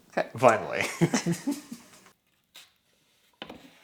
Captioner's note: both laugh